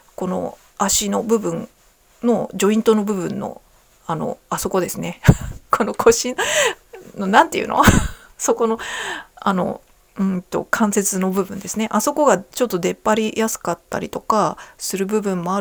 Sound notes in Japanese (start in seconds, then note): 8.5 笑い